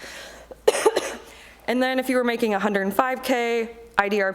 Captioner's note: coughs